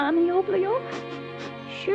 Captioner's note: sniffles